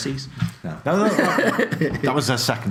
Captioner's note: laughs